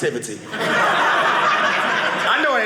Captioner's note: audience laughing